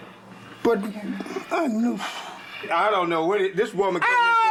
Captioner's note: sighs